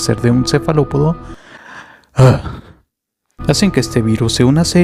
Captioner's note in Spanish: Insertar ASMR de suspiros